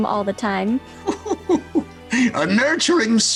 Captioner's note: laughing